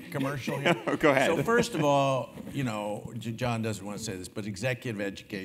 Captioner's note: laugh